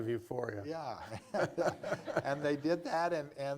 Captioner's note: laughter